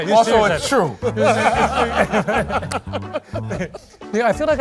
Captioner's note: laughter